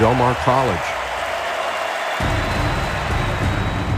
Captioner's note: crowd clapping and cheering; dramatic band music